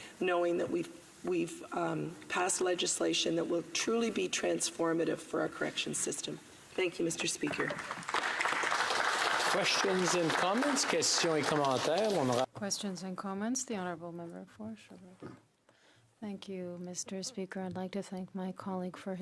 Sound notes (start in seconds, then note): 12.6 applause